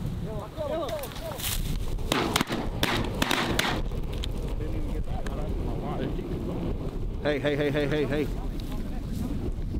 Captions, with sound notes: Go, go, go, go! (Gunshots) Hey, hey, hey, hey, hey, hey!